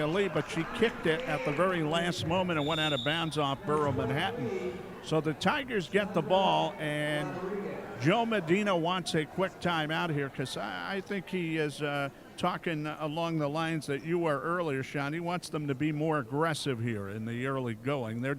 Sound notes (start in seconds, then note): 2.2 referee whistling